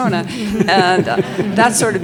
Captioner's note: audience laughs